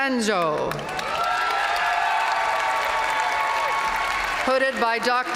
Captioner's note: audience cheering